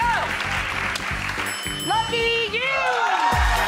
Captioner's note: bell pinging; upbeat music